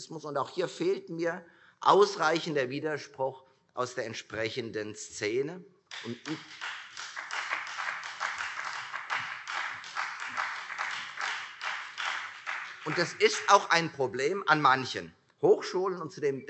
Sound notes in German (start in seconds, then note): 5.9 Beifall Freie Demokraten